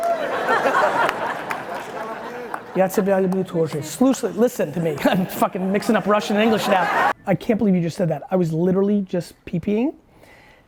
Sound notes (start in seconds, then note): 0.0 laughing; 2.8 speaking in foreign language